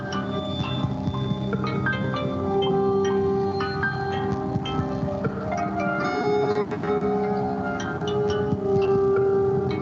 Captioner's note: beeping